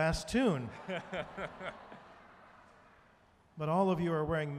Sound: audience laughing

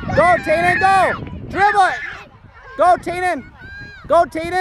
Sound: none

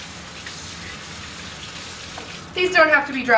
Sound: water splashing

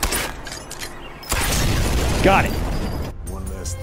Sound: armored car exploding

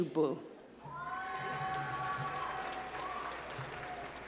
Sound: applause

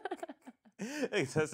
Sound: laughing

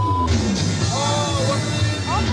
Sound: beep

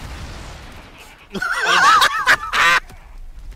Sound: laughter

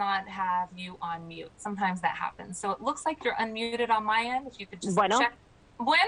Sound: speaking spanish

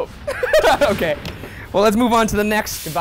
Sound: laughing

